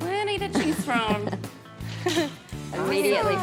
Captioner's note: chuckling